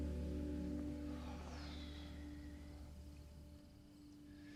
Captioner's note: Mitch sighs